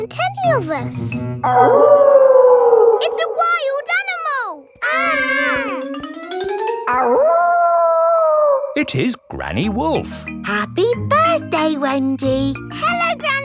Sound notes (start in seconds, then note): 1.4 wolf howling loudly; 4.7 kids yelling; 7.0 howling